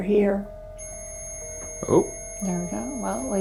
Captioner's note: EMF beeping